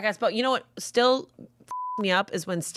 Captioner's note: beep